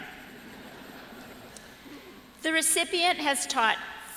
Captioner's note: laughter